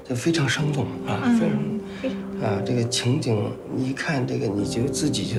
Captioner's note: hablan un idioma extranjero